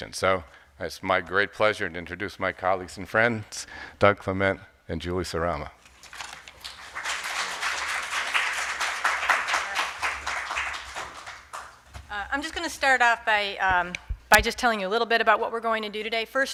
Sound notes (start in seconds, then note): 6.4 audience applauding